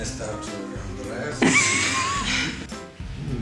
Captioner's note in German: Gelächter